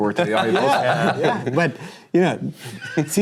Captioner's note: laughter